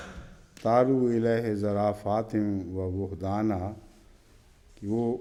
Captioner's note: Arabic